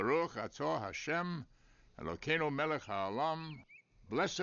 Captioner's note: speaking Hebrew